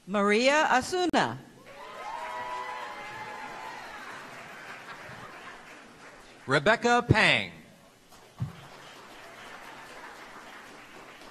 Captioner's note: applause